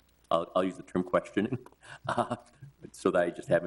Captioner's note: chuckles